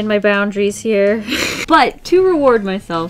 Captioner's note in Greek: Γέλια